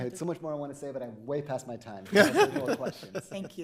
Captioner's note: Justices laughing; laughing